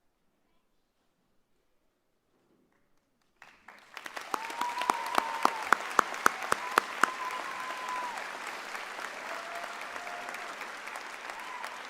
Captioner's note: applause